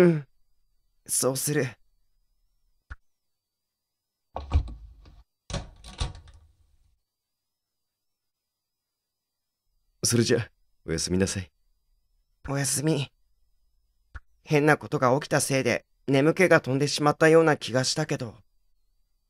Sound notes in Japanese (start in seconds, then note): 4.4 扉の閉まる音：ガッチャン; 4.4 扉の開く音：バタン